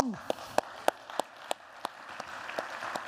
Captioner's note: applause